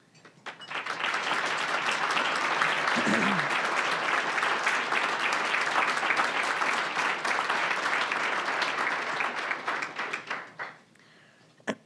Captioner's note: applause